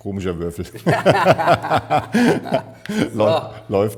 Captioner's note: laughing